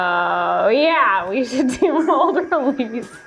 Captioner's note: laughing